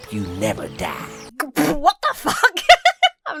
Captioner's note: splutters; laughs